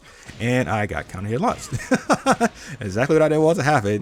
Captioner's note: laughs